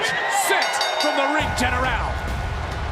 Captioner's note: bell rings